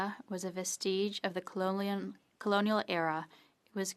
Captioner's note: speaking French